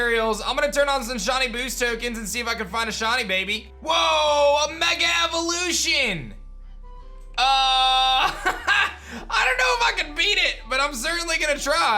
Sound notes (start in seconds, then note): 7.9 laughs